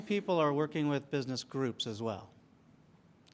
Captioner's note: audience laughs